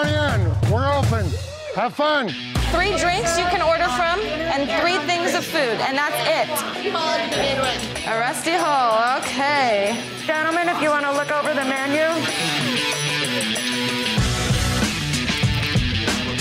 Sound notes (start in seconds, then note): 6.1 loud chatter